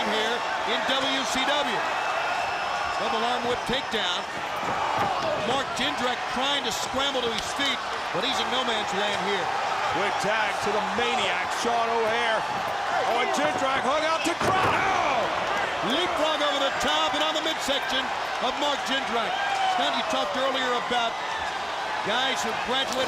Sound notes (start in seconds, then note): 2.0 crowd cheering; 10.2 crowd chatter